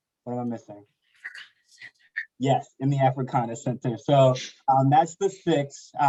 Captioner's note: whispers